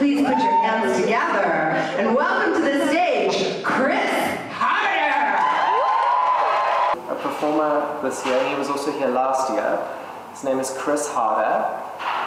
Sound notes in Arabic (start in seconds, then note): 5.0 هتاف الجمهور